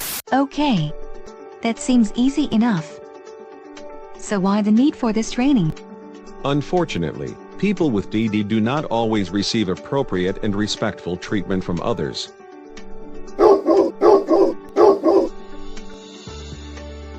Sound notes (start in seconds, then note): 13.3 dog barking